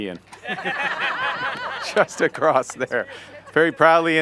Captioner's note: laughter